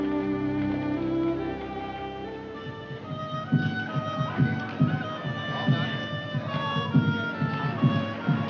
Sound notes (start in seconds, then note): 3.4 mysterious music; 3.4 people chattering